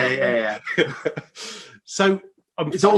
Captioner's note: laugh